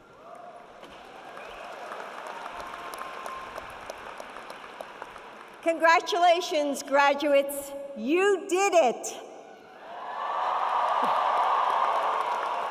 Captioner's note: audience Cheering